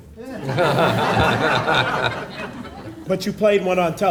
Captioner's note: audience laughing